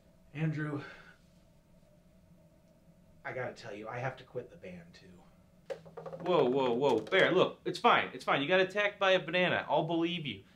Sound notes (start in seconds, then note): none